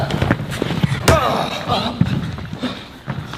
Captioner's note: crunchy hit